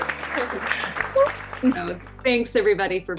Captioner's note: cheering